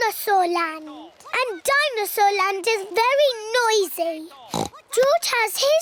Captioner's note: oinks